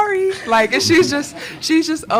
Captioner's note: crowd laughing